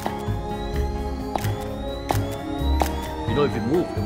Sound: upbeat music; camera shoots

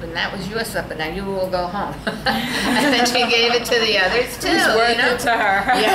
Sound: all laugh

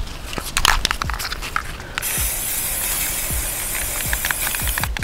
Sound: spray can clicking

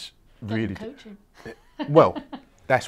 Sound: laughing

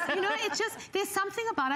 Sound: laughter

